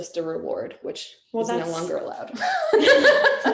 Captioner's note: laughing